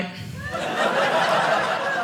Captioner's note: audience laughing